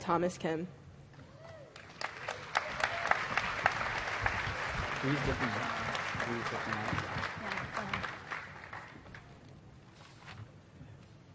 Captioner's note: applause